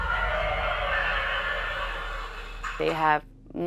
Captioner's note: something roars